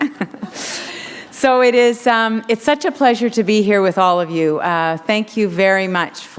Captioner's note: chuckle